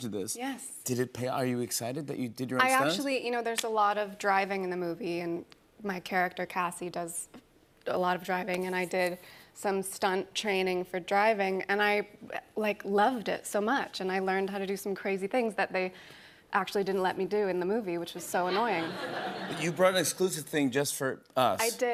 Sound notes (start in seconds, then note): 18.4 laughter